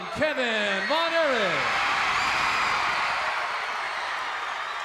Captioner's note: crowd cheers